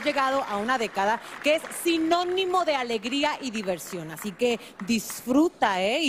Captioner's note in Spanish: aplausos